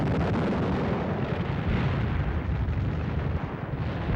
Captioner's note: bomb exploding